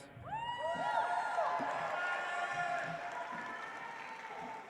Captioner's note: audience applauds